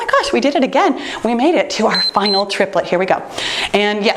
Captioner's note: timer beeps